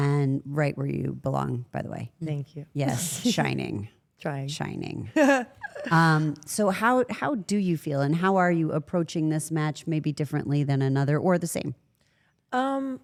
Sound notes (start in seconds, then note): 5.1 Rhea laughs